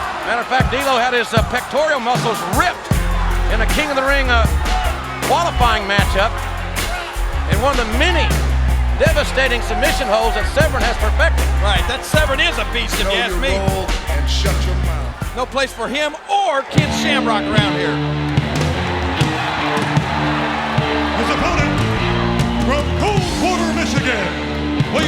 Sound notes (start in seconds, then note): 18.0 intense music; 18.9 crowd cheering